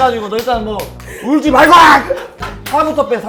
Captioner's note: screams of worry